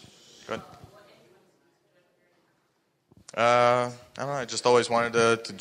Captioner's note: speaking faintly